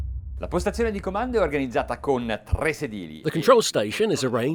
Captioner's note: speaking Italian